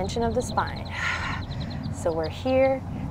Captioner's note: blows out breath